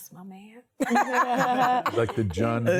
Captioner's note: laughter